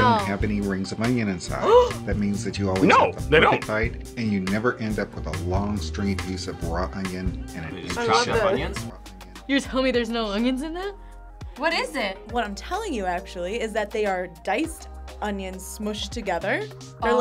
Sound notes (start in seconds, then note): 1.6 gasps